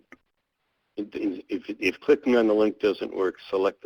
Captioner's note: voiceover